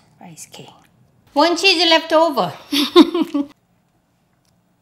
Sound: laughs

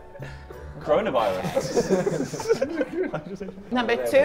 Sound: Sidemen chuckle

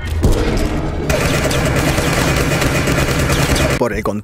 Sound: shots

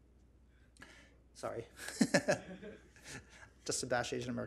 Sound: laughs

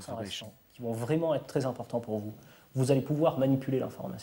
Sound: French spoken audio

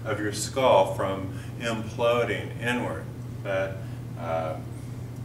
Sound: none

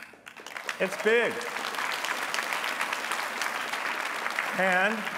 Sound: applause

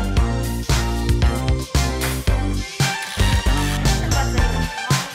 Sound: laughs

